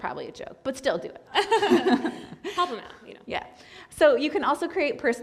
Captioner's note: laughter